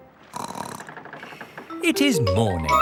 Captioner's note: snorts